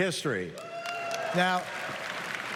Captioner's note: applause